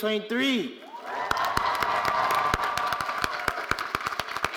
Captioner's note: all applauding